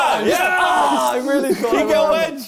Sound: both cheering

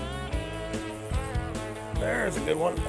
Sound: reel whirring

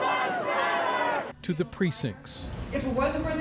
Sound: chanting

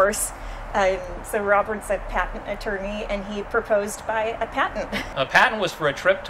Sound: laughs

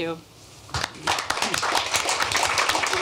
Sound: applause

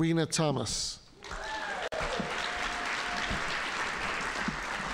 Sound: audience applauding

